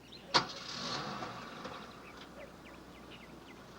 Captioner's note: engine turns